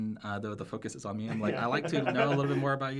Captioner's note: laughs